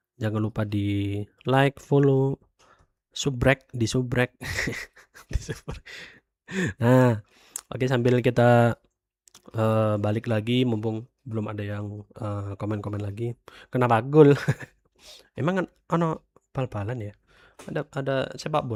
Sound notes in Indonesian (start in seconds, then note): 4.7 tertawa; 5.8 terkesiap